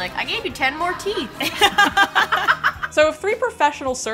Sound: laughing

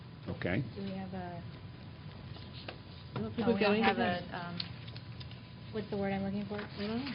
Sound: indistinct chatter

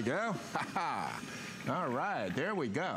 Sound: laughter

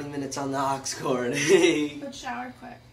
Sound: laughing

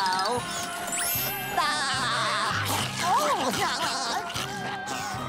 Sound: laughing

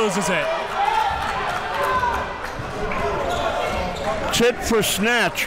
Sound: crowd cheering

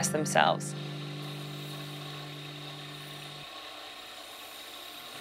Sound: grinder grinding steel

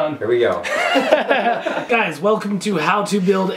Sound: laughs

